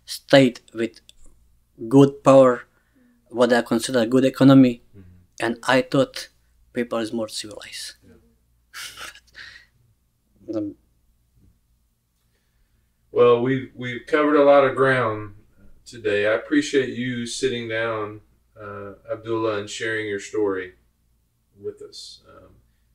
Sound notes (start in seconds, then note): 8.7 laughs